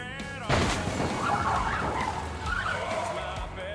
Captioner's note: truck crashing